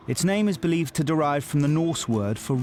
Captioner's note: none